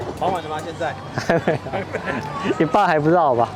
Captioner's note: laughs